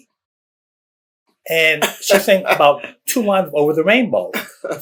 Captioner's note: laughter